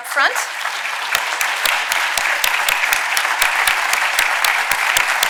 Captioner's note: audience applauding